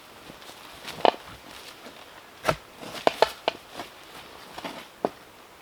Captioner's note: tree roots crunching